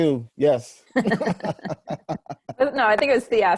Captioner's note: laughing